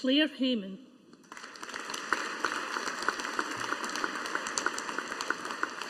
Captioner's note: audience applauding